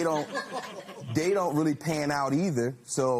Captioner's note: laughter